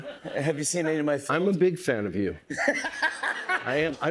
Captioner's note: laughs